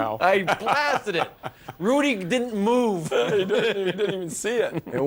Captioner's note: laughter